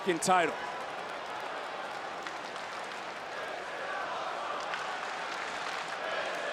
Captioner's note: audience cheering and applauding